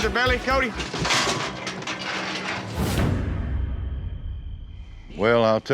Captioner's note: chute clanking